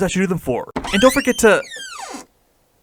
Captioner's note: door opening sound